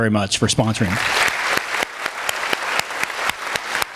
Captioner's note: clapping